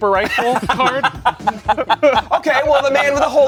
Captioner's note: everyone laughs